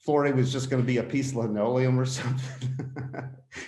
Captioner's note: laughs